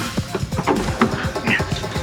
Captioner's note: grunts